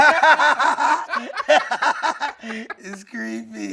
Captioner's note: everyone laughing